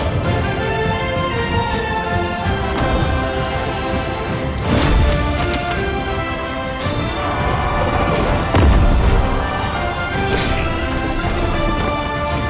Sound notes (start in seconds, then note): 2.6 door opens; 4.7 mace slams; 6.7 fire explodes; 7.3 armies shout